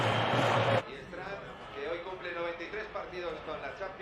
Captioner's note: komentar dalam bahasa spanyol